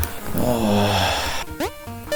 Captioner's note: when-will-it-end sigh